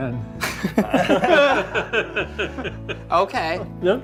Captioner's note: all laugh